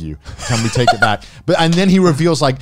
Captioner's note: laughs